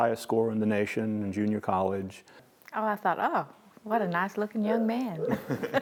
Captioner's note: laugh